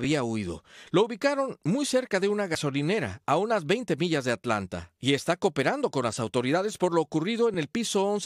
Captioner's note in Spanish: HABLAN EN INGLéS